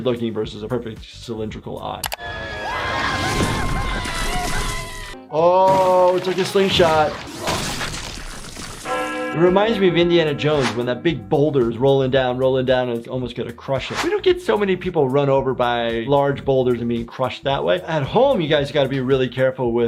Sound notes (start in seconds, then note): 2.1 ball whooshing; 2.2 Toothy and Cuddles screaming; 7.3 Toothy and Cuddles squishing; 8.8 bell chimes